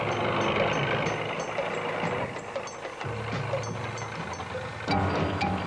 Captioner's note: vehicles rumbling continues; unsettling music